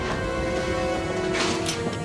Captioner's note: cocking guns